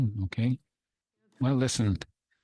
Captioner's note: speaking French